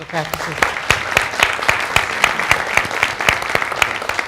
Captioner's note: clapping